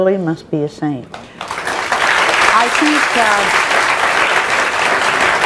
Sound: audience applauds

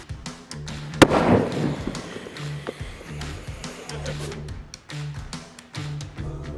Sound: explosion

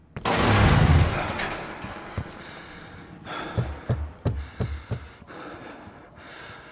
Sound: heavy breathing

